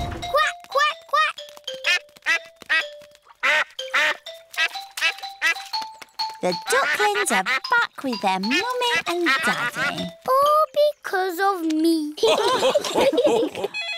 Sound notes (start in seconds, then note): 3.2 ducks and ducklings quack; 3.2 ducklings quack; 12.2 all laugh